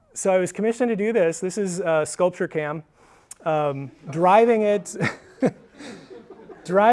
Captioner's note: laughs